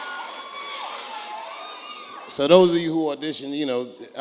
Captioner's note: applause